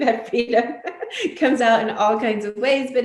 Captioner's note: laughter drowns out speech